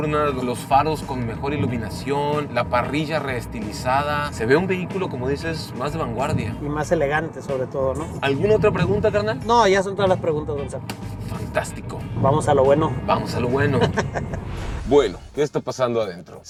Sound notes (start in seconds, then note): 13.6 laughter